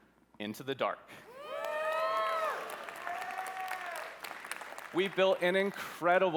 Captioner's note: applause